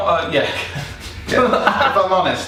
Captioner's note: laughing